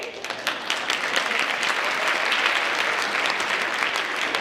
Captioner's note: audience applauds